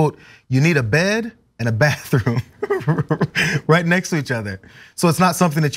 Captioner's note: laugh